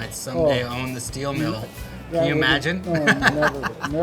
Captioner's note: laughs